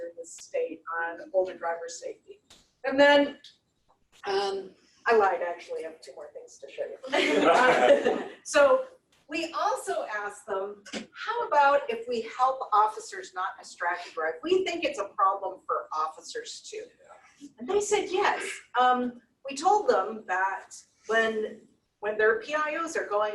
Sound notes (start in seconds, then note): 7.0 laughter